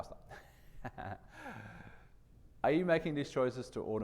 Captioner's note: chuckles